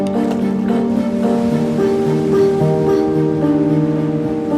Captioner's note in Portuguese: Ondas quebram